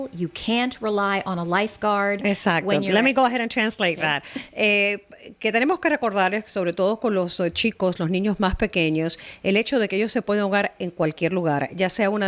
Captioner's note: Hablando ingl\s